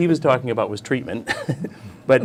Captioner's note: laughs